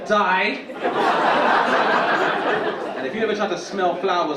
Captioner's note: audience laughing